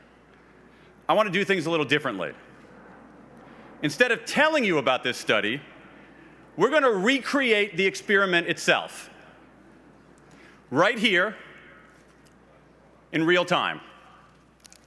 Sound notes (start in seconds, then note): none